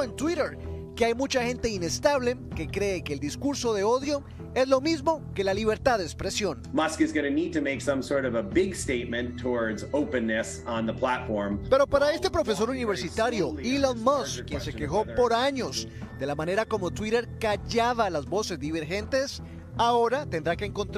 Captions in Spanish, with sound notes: >> EL USO DE LENGUAJE DESPECTIVO GENERó LA REACCIóN HASTA DE LA ESTRELLA DEL BALONCESTO LEBRON JAMES QUE DIJO EN TWITTER HAY MUCHA GENTE INESTABLE QUE CREEN QUE EL DISCURSO DE AUDIO ES LO MISMO QUE LA LIBERTAD DE EXPRESIóN. >> (HABLA EN INGLéS). >> PARA ESTE PROFESOR